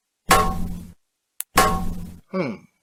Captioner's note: metal thudding